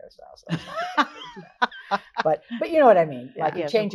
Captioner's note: laughs